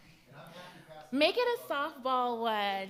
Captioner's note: speaks off mic